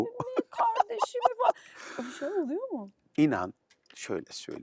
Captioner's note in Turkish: kahkaha